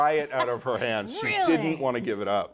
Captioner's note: laughing